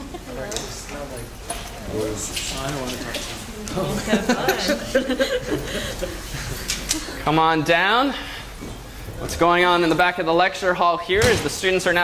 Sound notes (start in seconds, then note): 2.0 whispers; 3.9 laugh